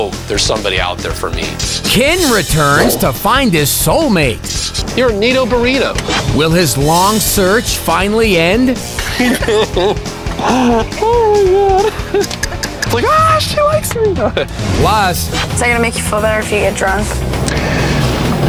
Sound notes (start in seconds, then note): 8.8 laughs